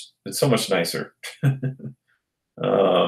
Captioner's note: laughs